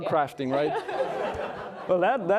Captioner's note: all laughing